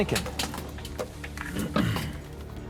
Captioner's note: clears throat